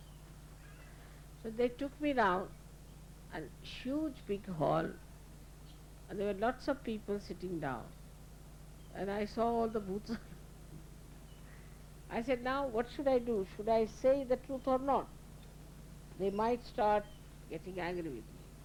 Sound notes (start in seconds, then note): 10.0 Shri Mataji laughing